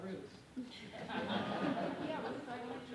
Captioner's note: laughter